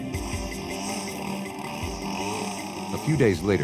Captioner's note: leaf blower motor